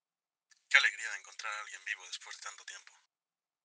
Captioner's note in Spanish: none